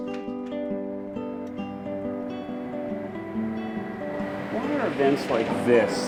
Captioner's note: cars faintly whizzing